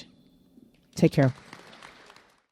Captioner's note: attendees clapping